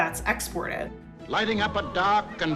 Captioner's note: soundbite of archived recording